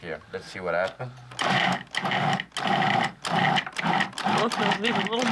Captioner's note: whirring